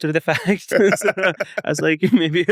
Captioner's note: laughs